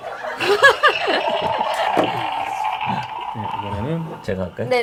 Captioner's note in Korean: 웃음